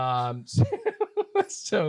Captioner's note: laughs